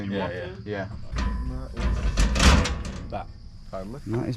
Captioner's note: metal rattling